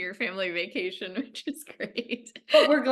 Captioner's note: chuckles